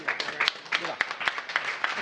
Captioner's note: applause